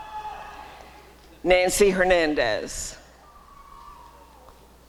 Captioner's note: applause and cheering; applause and cheering